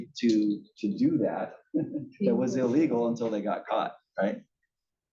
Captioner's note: laugh